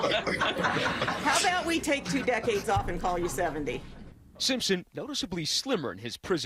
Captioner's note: laughter